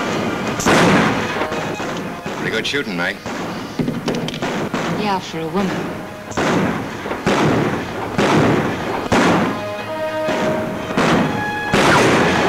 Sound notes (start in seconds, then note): 6.6 guns bang